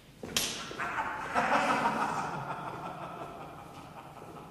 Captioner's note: laughter